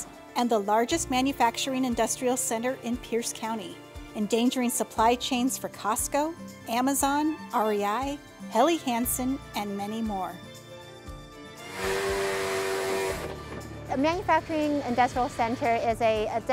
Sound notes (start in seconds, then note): 11.6 forklift whirrs